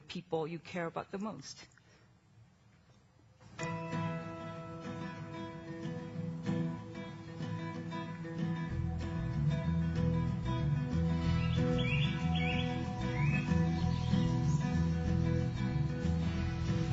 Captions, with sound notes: people you care about the most. [Happy Guitar Music] [Birds Chirping]